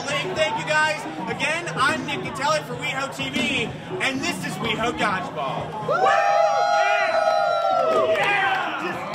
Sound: cheers

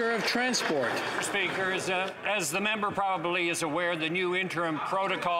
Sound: some Applause

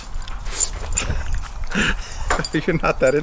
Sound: laughs

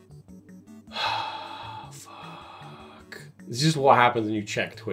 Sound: exasperated sigh

